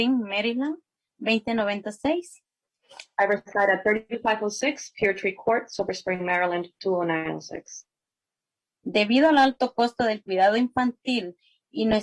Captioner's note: spanish